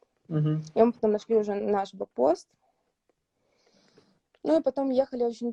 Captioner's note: Ukrainian